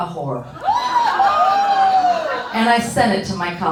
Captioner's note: audience howling